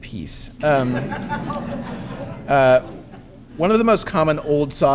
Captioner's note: audience laughing